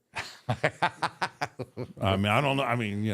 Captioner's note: Michael laughs